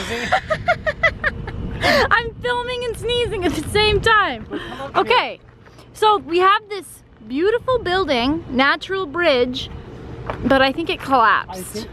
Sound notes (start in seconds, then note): 0.0 laughing